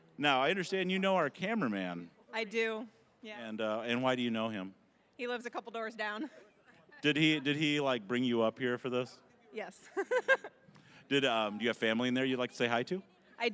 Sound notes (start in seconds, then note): 10.0 laughing